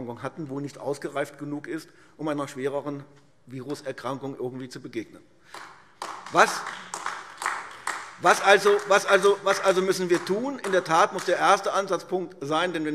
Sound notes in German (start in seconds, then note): 5.5 Beifall AfD